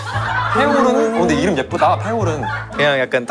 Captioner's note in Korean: 깔깔깔